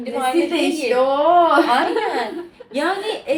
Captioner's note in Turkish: kahkaha